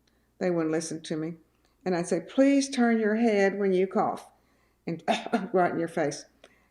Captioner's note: coughs